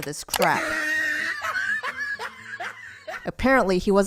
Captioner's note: asthma intensifies